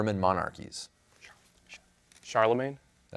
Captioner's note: whispers